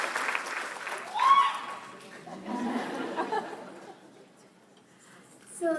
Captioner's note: laughter